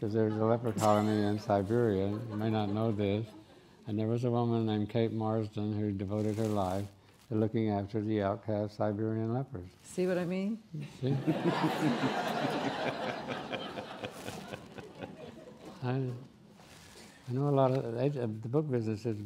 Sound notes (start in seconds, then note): 11.1 laughing